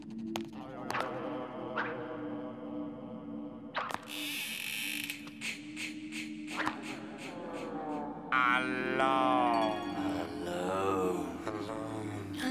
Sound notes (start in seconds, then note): 4.1 creaking; 5.3 echoing